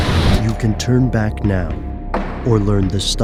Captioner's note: voiceover